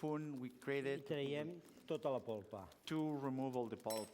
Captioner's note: non-english speech